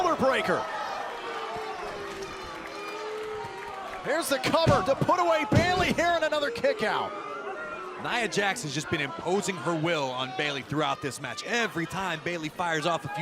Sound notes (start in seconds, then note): 1.5 crowd cheering